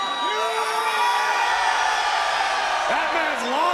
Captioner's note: crowd cheering